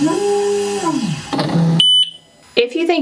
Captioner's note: machine beeping